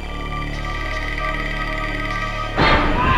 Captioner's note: crickets; music accent